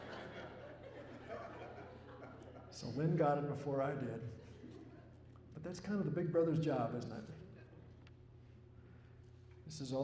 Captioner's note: laughter